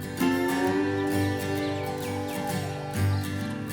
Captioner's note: chickens cluck